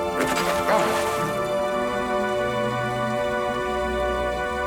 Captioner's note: water splashing